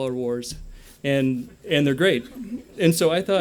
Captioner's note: laughter